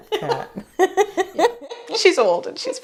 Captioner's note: laughter